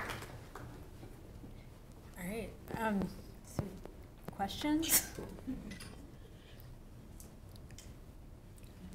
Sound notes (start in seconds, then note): 0.0 applause; 5.2 laugh